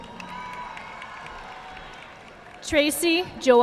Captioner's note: audience clapping